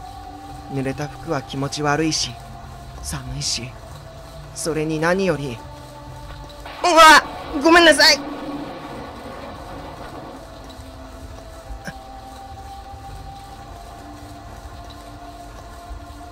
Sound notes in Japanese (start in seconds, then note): 6.6 雷の音：ゴオォォ･･･; 6.6 稲光の音：ピガッ！; 9.2 心細いbgm; 9.2 雨音：ザァー･･･